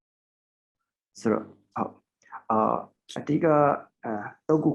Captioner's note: speaking burmese